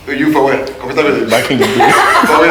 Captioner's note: judges Laughing